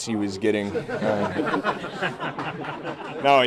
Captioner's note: laughter